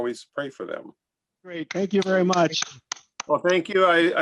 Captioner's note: applause